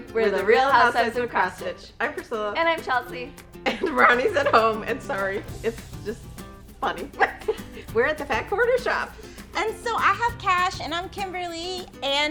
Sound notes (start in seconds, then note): 7.2 giggles